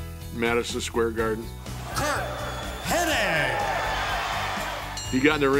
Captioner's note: applause